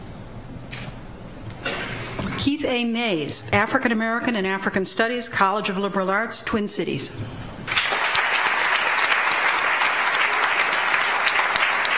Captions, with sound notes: Keith A. Mayes, African-American and African Studies, College of Liberal Arts, Twin Cities. (audience applauds)